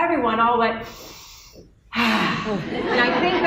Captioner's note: exhales in relief